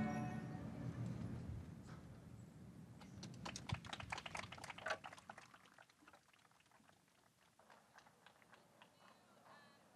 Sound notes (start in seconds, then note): 3.2 audience applauds